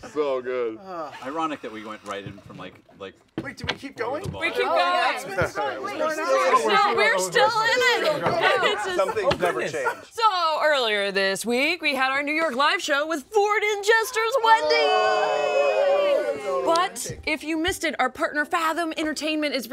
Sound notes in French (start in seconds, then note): 13.9 acclamations